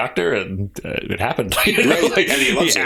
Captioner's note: laughter